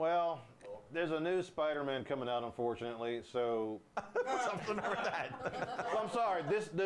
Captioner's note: scattered Laughs